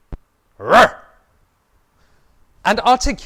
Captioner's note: growl